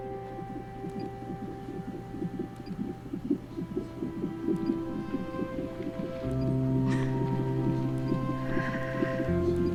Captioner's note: baby's heartbeat playing on monitor